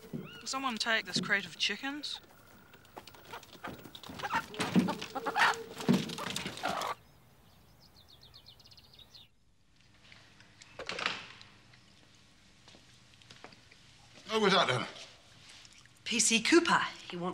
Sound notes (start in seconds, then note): 2.0 chickens clucking